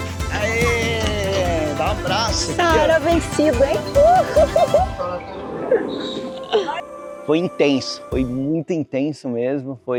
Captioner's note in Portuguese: risadas; risadas